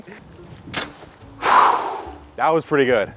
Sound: machete whips; exhales

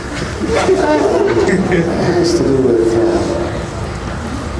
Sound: laughing

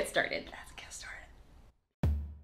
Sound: whispers; quick drum beats

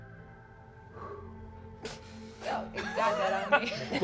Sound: exhaling

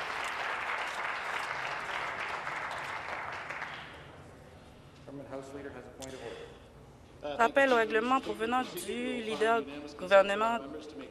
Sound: applause

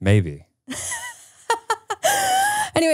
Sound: laughing

